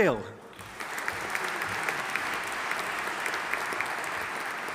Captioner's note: audience applauding